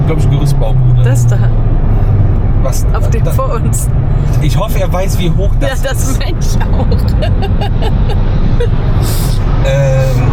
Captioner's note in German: gelächter